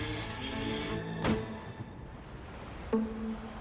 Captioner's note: footsteps